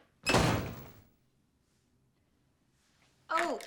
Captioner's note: door slams